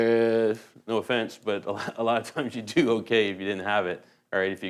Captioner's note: laughs